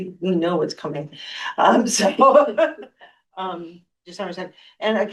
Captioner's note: laughter